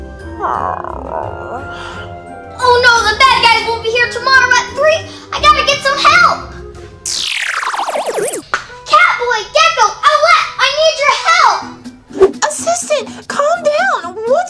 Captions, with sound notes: (whimpers) - Oh no, the bad guys will be here tomorrow at 3? I gotta get some help! (futuristic zapping) Catboy, Gecko, Owlette! I need your help! - Assistant, calm down!